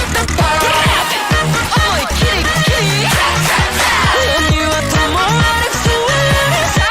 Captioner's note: Clap Clap Clap